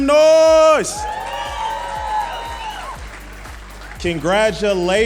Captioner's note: audience cheering and applauding